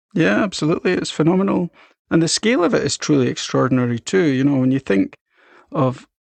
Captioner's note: none